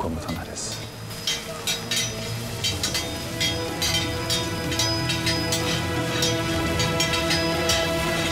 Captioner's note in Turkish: Kılıç sesleri